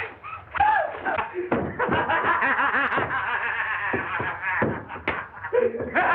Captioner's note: laughing wildly